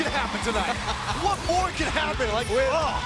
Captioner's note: crowd cheering